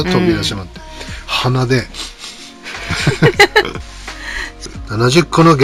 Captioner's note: laughs